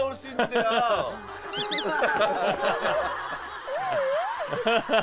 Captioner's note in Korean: 우웅~♥